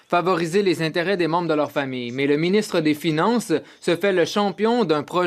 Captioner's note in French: voix de l'interprète